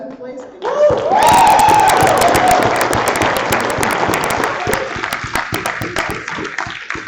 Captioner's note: applause